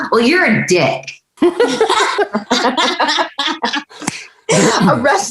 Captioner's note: everyone laughing